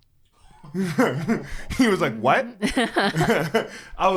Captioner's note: laughs